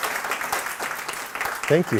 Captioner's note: applause